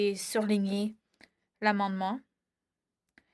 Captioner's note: speaking in French